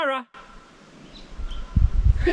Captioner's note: very faint echo